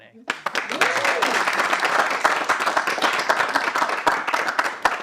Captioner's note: audience applauding